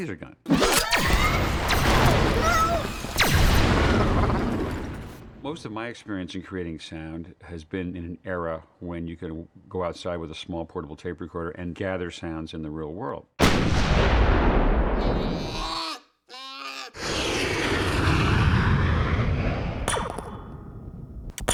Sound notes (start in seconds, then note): 0.1 whooshing; 2.2 wall-e screaming in alarm; 13.4 explosion; 15.0 bear groaning; 17.0 jet engines whooshing; 19.8 sound of laser gun firing